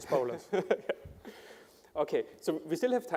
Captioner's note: laughter